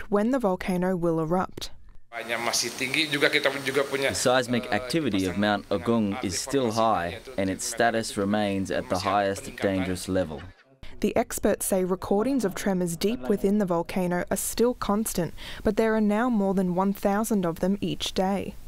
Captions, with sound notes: when the volcano will errupt. (Indonesian Volcanologist speaking) Translation:'The siesmic activity of Mount Agung is still high and its status remains at the highest, dangerous level.' The experts say recordings of tremors deep within the volcano are still constant but there are now more than one thousand of them each day.